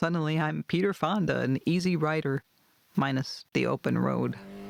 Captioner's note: motorcycle roars